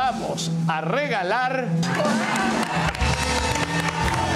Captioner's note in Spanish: Gritos; Aplausos